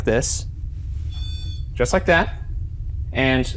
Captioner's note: device beeps